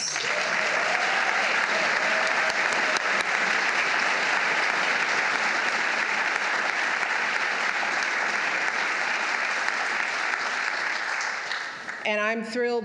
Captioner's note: applause